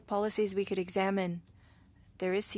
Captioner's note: speaking French